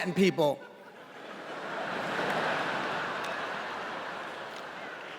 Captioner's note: laughter